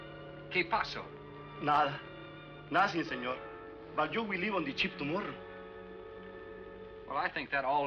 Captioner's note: speaking spanish